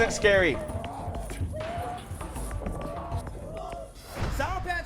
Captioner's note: people yelling